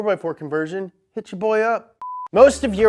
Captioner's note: beep